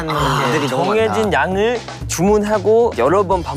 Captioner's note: sigh...!; sigh...!